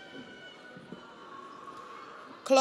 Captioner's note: audience cheers